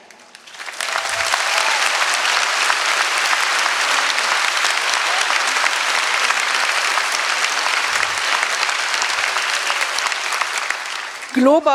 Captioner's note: applause; speaking in German